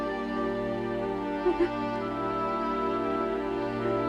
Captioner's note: crying